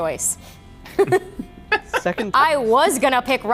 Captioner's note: group laughs